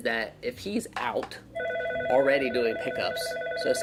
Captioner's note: phone ringing